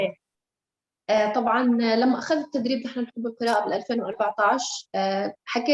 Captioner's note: speaking Arabic